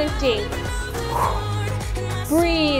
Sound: exhales

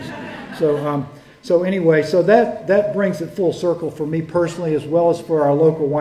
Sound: laughter

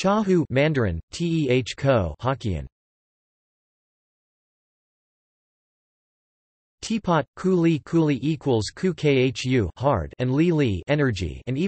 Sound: Mandarin; hokkien

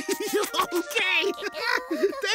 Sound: laughing

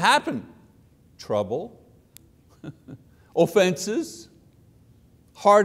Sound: chuckles

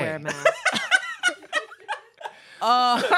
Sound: laughs

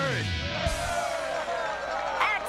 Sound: cheering

